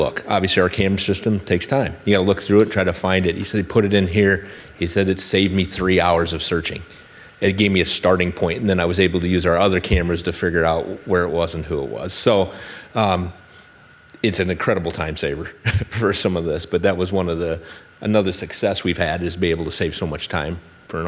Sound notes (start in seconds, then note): 15.6 chuckles